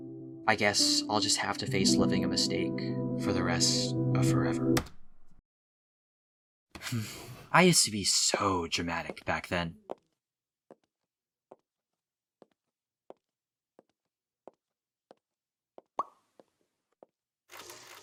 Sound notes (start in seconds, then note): 4.8 pause; 6.8 sigh